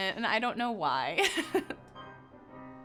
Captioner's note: laughing